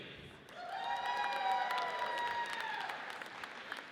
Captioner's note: audience cheers